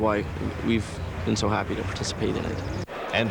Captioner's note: quiet cheering